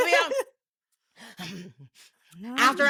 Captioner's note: laughs